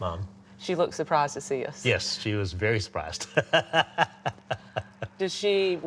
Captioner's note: laughs